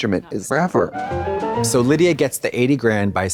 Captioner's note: bright chime